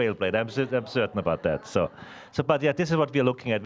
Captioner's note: audience laughing